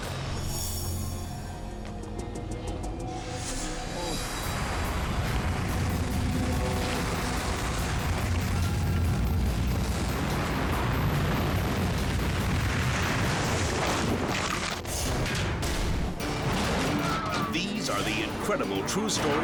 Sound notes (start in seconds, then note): 0.2 dramatic music; 5.2 avalanche rumbles; 13.3 snow crunches; 14.5 metal thuds